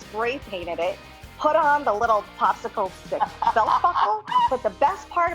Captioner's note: laughs